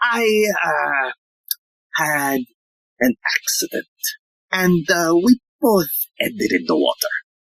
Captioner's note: none